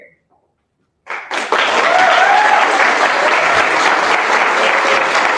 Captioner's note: applause